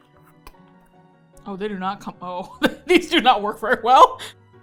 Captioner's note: laughs